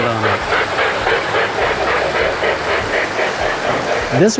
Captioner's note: train whirs